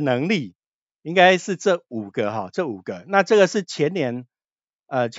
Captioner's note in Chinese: 笑~